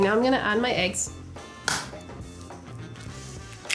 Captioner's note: noise of eggs breaking